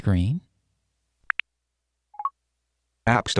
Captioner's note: beeps